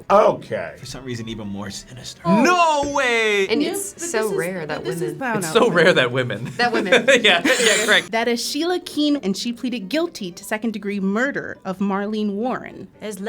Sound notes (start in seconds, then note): 6.9 laughing